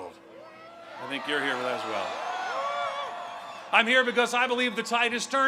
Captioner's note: crowd cheering